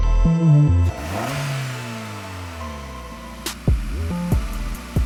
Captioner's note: engine revving